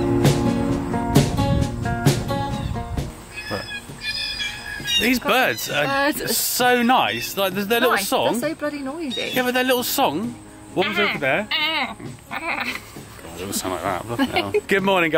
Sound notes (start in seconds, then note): 2.8 birds making noise; 11.8 caw, caw, caw!